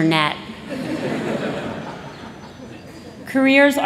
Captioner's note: laughter